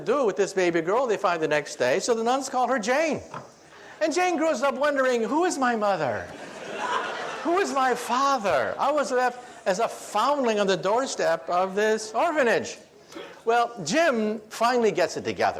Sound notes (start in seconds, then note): 6.3 audience laughs